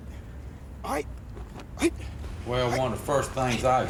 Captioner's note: inmate grunting